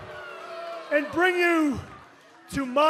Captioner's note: crowd chatter